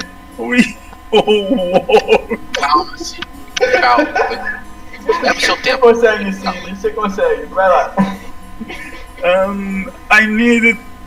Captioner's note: motivational laugh with hysteria galore